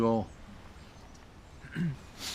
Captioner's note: clears throat